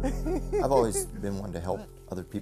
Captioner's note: laughing